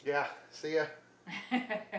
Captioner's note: woman laughs